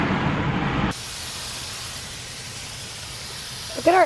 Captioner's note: water spraying